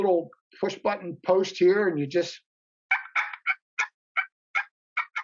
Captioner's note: turkey call; turkey call